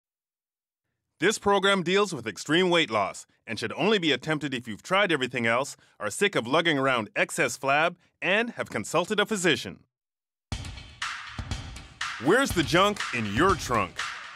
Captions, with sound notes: - [Voiceover] This program deals with extreme weight loss and should only be attempted if you've tried everything else, are sick of lugging around excess flab and have consulted a physician. (upbeat music) Where's the junk in your trunk?